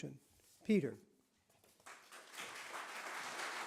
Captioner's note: applause